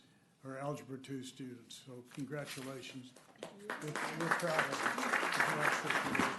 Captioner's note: applause